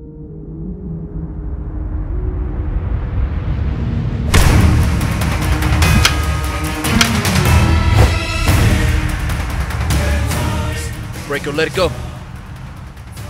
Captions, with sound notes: (thudding) (exciting dramatic music) - Break it or let it go.